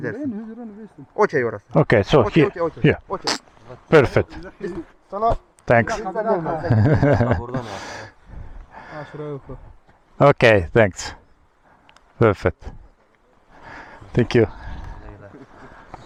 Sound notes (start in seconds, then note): 4.4 in Turkish